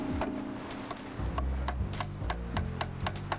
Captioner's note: tapping of hammer